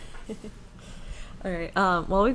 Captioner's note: laughs